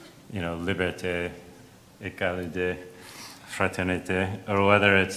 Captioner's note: speaks in foreign language